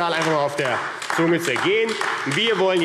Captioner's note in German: Beifall AfD